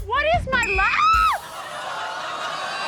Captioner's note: blows whistle; screams